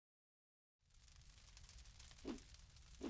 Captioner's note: fire crackles softly; logo whooshes